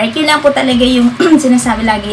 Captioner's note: clearing throat 😁